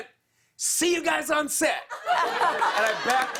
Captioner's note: laughter and applause